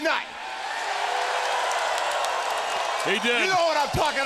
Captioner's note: crowd cheers